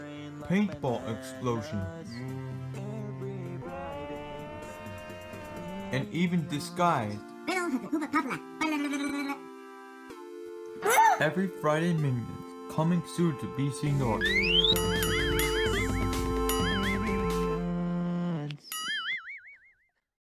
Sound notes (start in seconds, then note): 1.9 screaming in slow motion; 3.6 yells; 7.7 speaking minionese; 8.6 babbling; 10.8 screaming